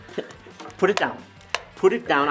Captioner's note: clapperboard tapping